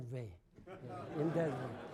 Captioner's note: laughter